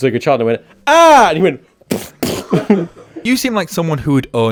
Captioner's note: splatting noise